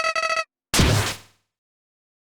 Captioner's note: Deltarune SOUL insert sound